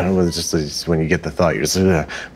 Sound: shudders

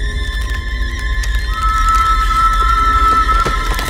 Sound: whistle

